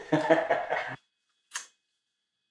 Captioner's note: laughter